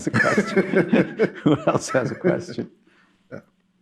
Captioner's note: laughter